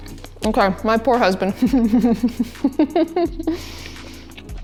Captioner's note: laughs